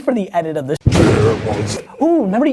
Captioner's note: monster voice